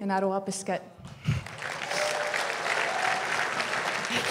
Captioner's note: crowd cheering and applauding